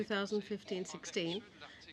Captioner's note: speaking french